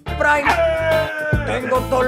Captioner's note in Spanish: grita